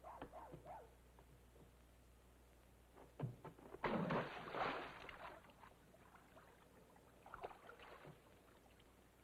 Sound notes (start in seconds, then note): 3.9 water splashing